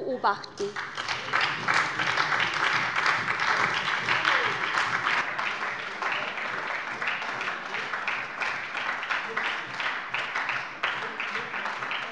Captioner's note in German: Beifall bei der SPD